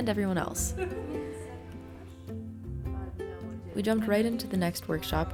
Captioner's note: guests talking